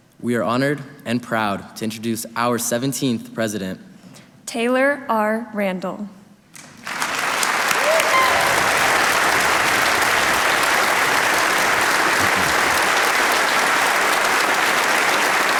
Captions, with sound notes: - We are honored and proud to introduce our 17th president. - Taylor R. Randall. (audience applauding)